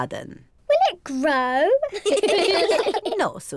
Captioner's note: all laugh